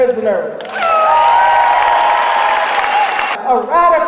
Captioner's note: audience applauding